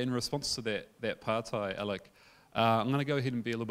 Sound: speaking in foreign language

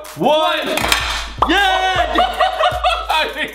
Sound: excited shouting and laughter

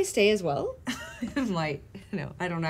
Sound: chuckling

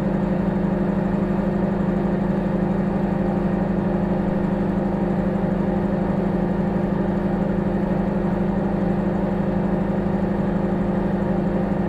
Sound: microwave humming

